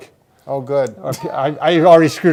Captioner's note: laughter